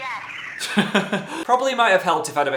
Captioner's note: laughs